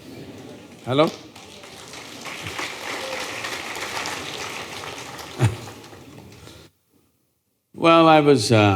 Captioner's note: applause; laughs